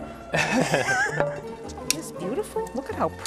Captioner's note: laughter